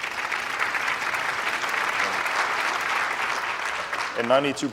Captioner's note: applause